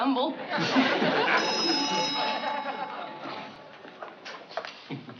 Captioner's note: doorbell rings